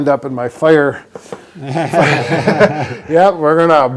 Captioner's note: both laugh